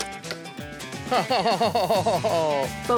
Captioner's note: arrow shot; chuckles